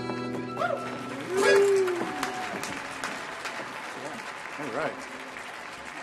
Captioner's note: audience applauding